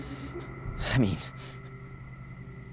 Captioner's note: exhaling